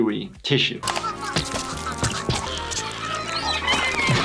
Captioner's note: Flaky squeaking; seagulls squawking